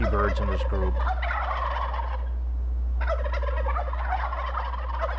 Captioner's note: turkeys gobble